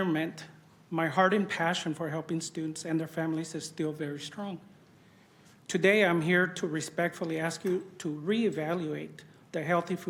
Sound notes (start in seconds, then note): none